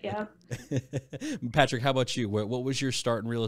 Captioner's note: laughs